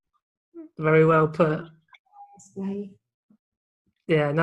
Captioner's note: sound dips